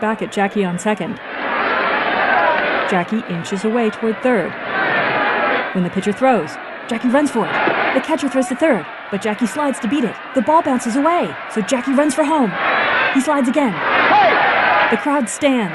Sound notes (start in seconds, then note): 8.8 excited cheering